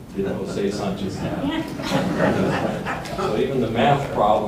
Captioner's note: audience laughing